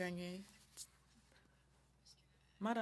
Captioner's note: speaking French